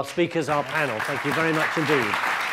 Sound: audience clapping loudly

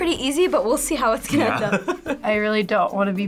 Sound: laughs

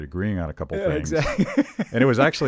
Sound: laughing

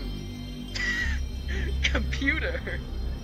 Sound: laughs

